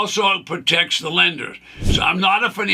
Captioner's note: screen whooshes